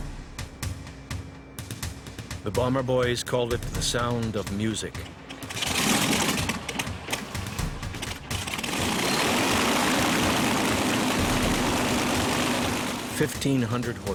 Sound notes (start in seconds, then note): 1.3 voiceover; 4.8 airplane propellers whirring